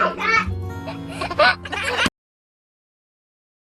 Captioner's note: giggling